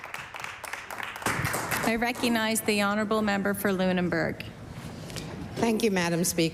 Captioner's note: applause